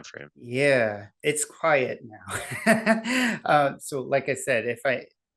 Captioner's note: laughs